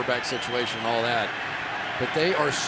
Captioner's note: crowd cheering